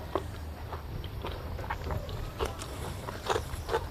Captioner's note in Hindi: none